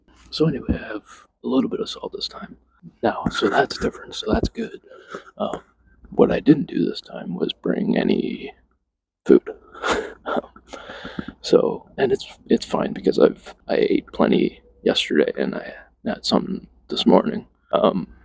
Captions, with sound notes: But so anyway, I have a little bit of salt this time. Now, so that's different, so that's good. Um, what I didn't do this time was bring any... food. (chuckles) Um, so... and it's- it's fine because I've... I ate plenty yesterday and I had somethin' this morning.